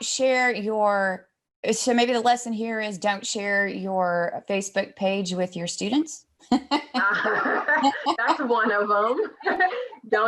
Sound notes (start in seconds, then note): 6.6 laughs